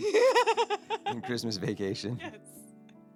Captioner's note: laughing